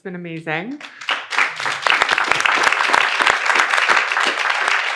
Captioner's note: audience applauds